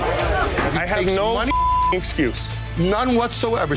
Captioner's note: beep